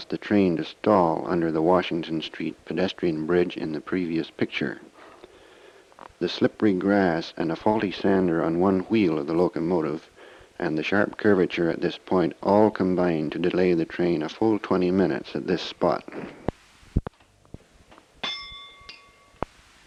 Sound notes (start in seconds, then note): 18.2 bell Sound